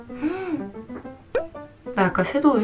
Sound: smelling

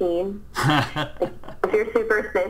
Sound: laughs

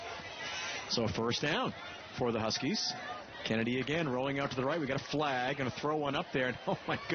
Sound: laughter

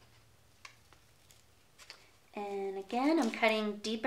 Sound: scissors snipping

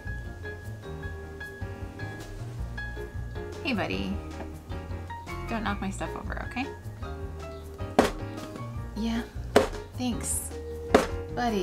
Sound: rubs on sewing box making a loud clang x4

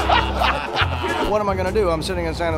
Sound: laughter

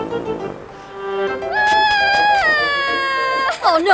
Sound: cries harder

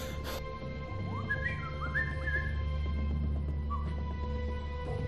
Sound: whistling

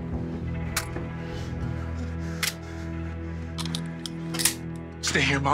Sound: tense music; clicking sound, cocks rifle

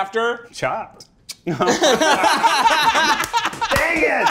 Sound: kisses; all laughing

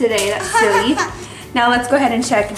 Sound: laughs

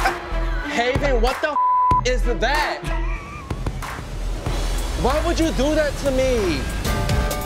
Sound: beep

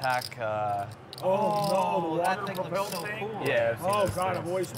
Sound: everyone exclaims

